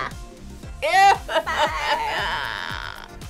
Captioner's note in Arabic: آهات